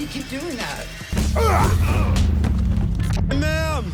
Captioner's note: punching, grunting